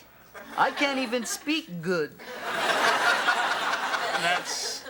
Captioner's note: audience laughs